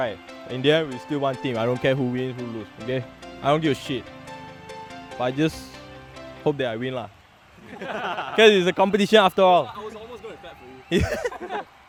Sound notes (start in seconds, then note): 7.1 awkward silence; 7.6 everyone laughs; 10.9 laughs